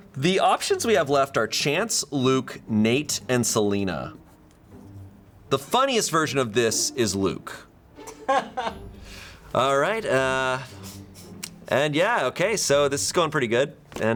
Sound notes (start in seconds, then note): 8.0 crew member laughs